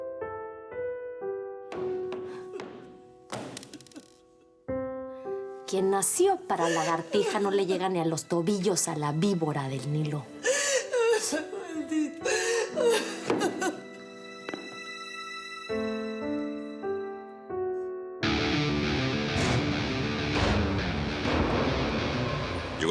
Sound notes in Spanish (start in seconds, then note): 2.9 Sollozos; 12.1 Sollozos